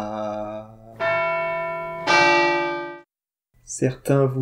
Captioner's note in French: Sons de cloche